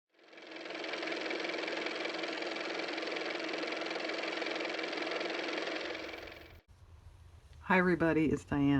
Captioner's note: car motor